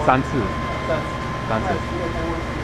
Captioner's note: mandarin